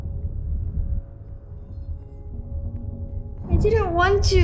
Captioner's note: thunder booms, eerie music